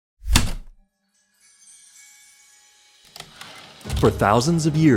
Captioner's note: heavy typewriter keystroke, light chimes, typewriter return slide